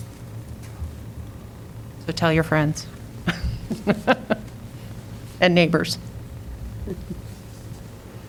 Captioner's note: laughter